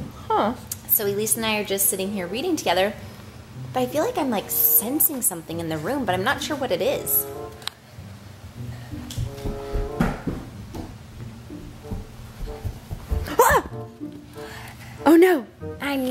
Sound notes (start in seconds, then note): 0.0 footsteps; 7.9 soft suspenseful music; 8.6 footsteps